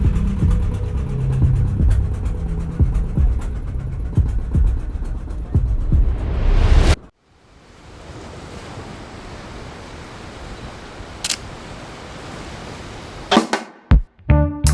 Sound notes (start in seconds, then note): 0.0 suspenseful music; 11.2 camera shutter click